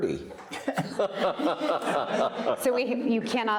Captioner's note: all laughing